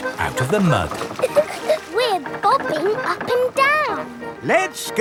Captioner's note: chuckles